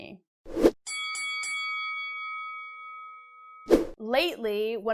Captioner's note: bell ringing